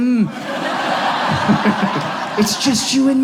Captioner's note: audience laughs